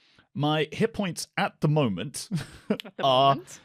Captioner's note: laughs